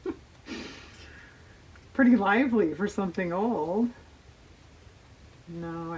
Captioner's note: laughs